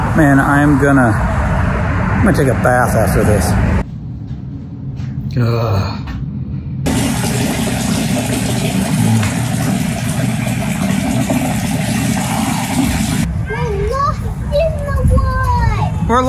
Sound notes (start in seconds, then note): 5.3 groans; 6.8 water running